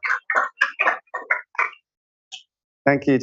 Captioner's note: applause